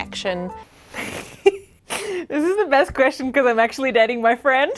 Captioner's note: laughs